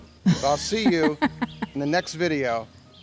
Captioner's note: woman laughing